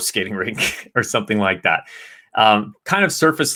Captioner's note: chuckles